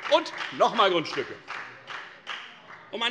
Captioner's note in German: Beifall bei der FDP